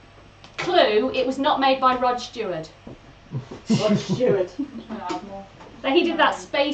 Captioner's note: laughs